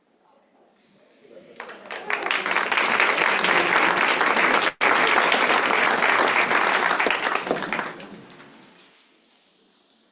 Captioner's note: applause